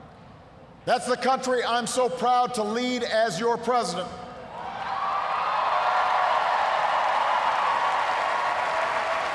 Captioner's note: cheers, applause